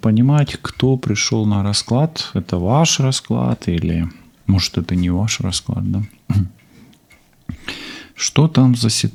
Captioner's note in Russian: откашливается